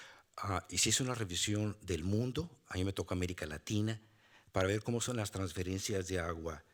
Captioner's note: speaking Spanish continues